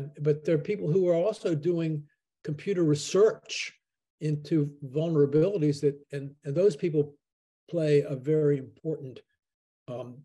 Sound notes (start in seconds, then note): none